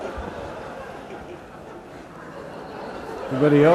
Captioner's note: laughter